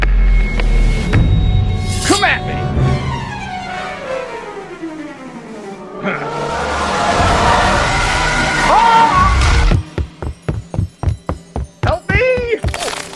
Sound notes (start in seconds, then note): 8.1 monster shrieks